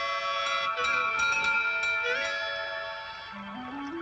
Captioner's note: door bell ringing